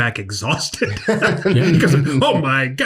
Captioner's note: everyone laughs